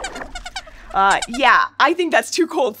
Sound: squeaks squeaks

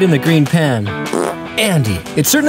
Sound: passes gas

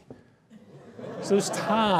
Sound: laughter

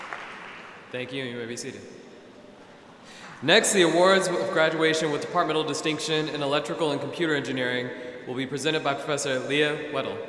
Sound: applause

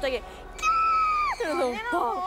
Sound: shriek~

